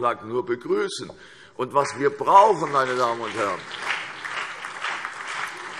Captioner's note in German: Beifall CDU und BÜNDNIS 90/DIE GRÜNEN